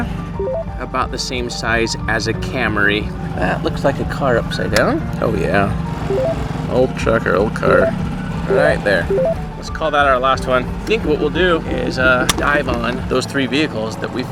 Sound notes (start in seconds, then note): 5.8 number beeping